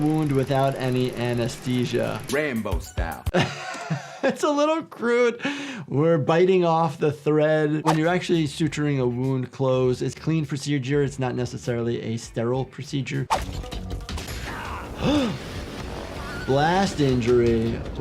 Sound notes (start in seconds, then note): 3.3 laughs; 14.2 explosion booms; 14.4 Snake yells; 14.6 gasps